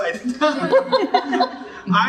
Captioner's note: laughing